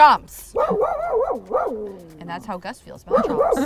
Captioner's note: Gus barking